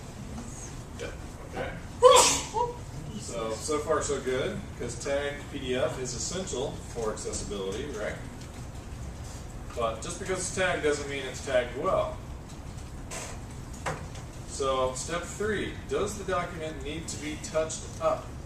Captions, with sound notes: >> Yes. >> Okay. >> [COUGH]. >> So, so far so good cuz tag PDF is essential for accessibility, right? But just because it's tagged doesn't mean it's tagged well. So, step three. Does the document need to be touched up?